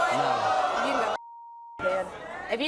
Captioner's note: beep